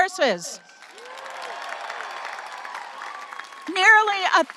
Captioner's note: audience applauding and cheering